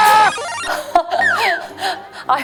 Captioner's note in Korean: 음료 먹다 뿜음